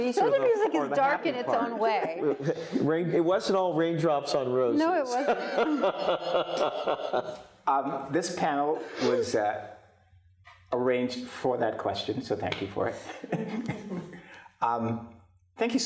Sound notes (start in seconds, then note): 5.0 laughing; 13.0 chuckles